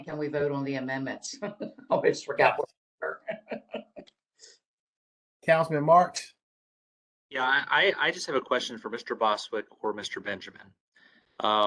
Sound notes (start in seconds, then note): 3.3 laughter